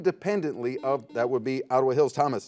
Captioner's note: buzzer